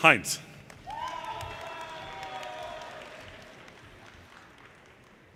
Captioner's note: audience cheers and applause